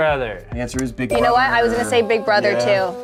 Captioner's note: bell dings